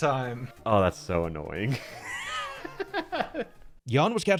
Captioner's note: laughing